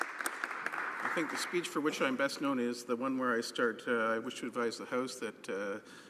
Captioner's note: some Applause